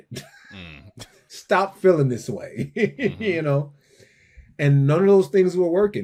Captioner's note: laughs